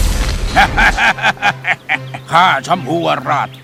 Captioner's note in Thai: หัวเราะ